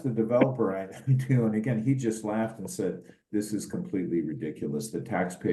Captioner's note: laugh